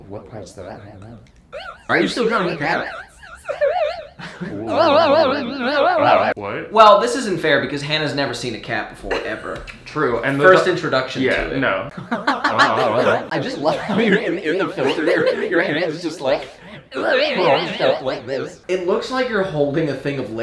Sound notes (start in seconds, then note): 4.1 distorted warbling voices; 11.9 laughing